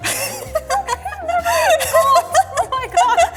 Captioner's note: laughing